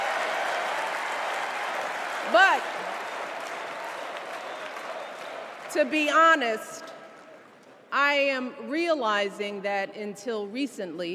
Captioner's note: cheers and applause